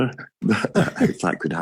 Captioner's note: laughs